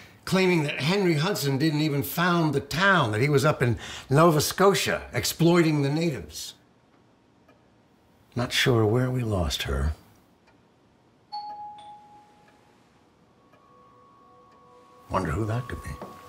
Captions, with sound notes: claiming that Henry Hudson didn't even found the town. That he was up in Nova Scotia exploiting the natives. Not sure where we lost her. *doorbell* Wonder who that could be.